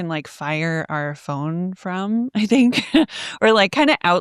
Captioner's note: chuckles